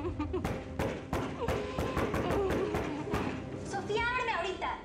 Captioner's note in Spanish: sollozos; toques insistentes en la puerta